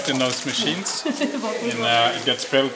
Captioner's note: woman laughing